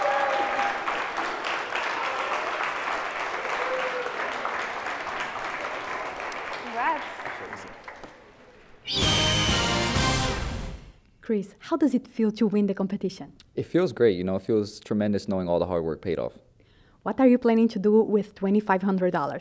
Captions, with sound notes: [ Applause ] >> Congrats. >> Chris, how does it feel to win the competition? >> It feels great you know, it feels tremendous knowing all the hard work paid off. >> What are you planning to do with $2,500?